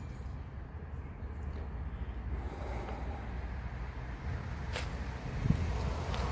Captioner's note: sigh; car passes